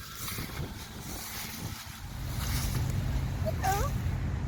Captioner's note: leaves rustling